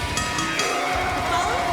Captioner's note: bell ringing